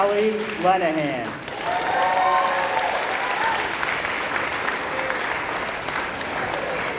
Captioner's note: applause